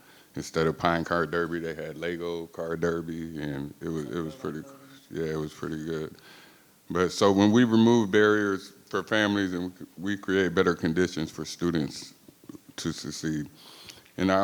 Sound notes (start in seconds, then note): 4.1 member speaking faintly